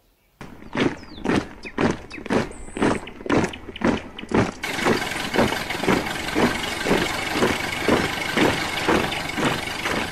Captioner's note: sound of footsteps